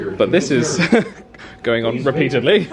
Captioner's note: chuckles